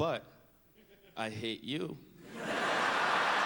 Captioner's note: laughter